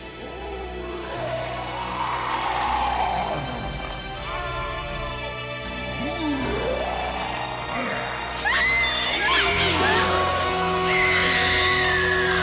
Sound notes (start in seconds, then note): 0.8 monster growling; 8.3 Kathy screams